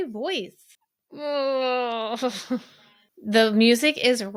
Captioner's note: groans